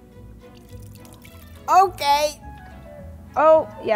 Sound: water splashing

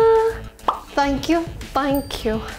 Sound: image pops

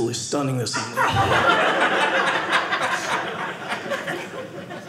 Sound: audience laughing

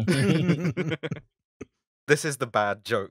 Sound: laughter

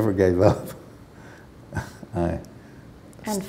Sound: chuckle

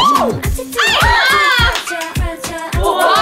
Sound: can't help but applaud

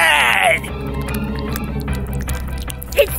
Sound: bananification noise intensifies

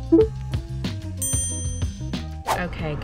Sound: bell dings

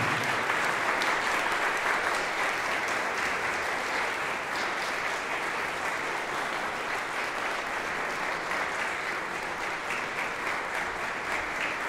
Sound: applause

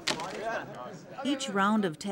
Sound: crackling sound

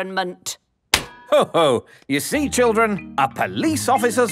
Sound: slaps

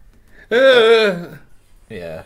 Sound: surprise Burp

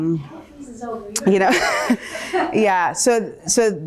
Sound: laughter

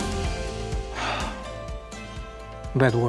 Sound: sighs

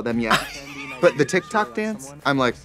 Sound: Katya wheezes

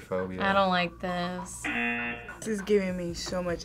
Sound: buzzer rings

